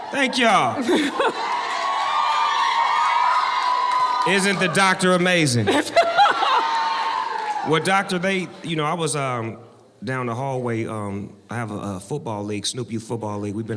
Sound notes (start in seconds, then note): 0.0 audience cheering and clapping; 5.6 laughs